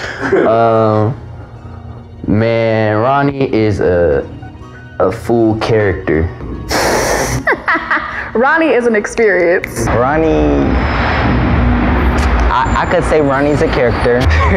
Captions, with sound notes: Man, Ronny is a full character. (student laughs) - Ronny is an experience. - Ronny, I could say Ronny's a character.